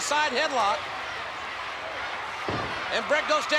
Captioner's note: spectators cheering